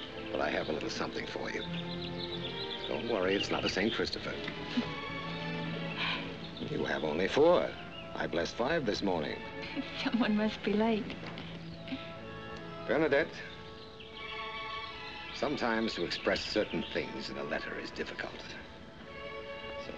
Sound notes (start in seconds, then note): 4.4 chuckles